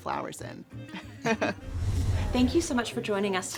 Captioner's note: both laugh